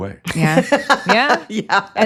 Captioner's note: laughs